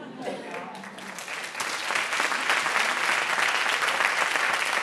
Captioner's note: applause